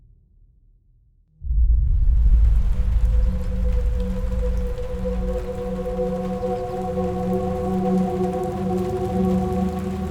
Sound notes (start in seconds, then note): 1.5 eerie music; 2.1 rain pattering